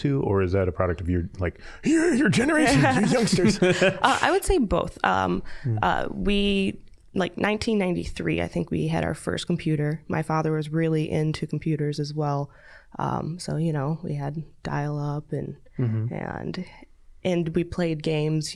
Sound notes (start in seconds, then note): 1.6 old man voice; 2.0 all laughing